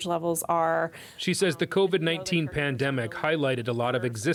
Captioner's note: voice-over